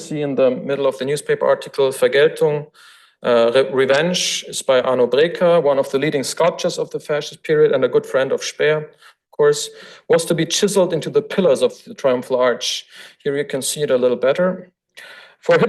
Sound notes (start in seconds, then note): 2.0 foreign language